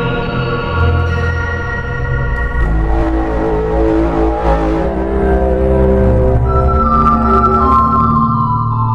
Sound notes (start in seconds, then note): 2.3 tripod sounds their horn again to praise the emperor; 6.3 emperor's horn followed by a tripod dying